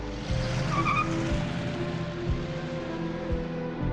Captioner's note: tires screeching